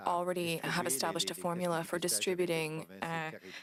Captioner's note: speaking French